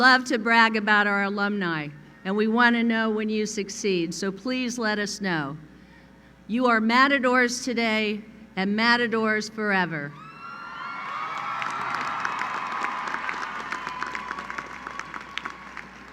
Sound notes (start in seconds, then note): 10.2 cheering; 10.9 applause